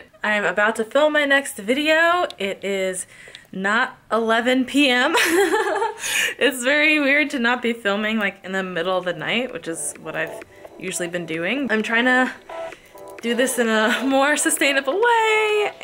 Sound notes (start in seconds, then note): 5.2 chuckles; 11.8 upbeat ambient music